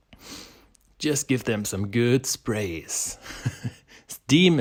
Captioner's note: chuckles